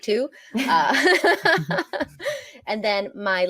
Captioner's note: laughs